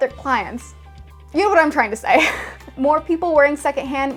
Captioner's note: laughs